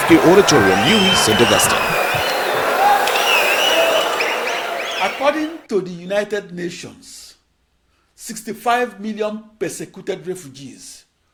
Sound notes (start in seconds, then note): 0.0 wild applause and cheering for 22 seconds